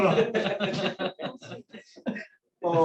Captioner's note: laughter